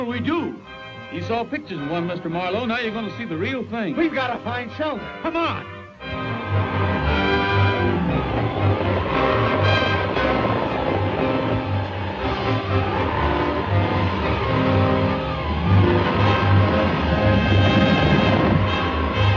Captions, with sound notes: - What'll we do? - You saw pictures of one, Mr. Marlowe. Now you're gonna see the real thing. - We've got to find shelter, come on! (dramatic orchestral music) (wind howling)